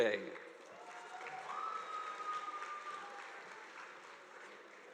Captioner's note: audience applauding